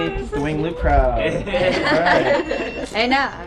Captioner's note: laughter